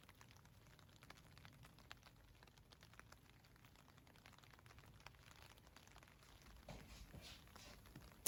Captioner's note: the sound of rain bouncing off the windowsill